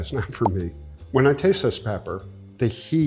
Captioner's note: bubble pops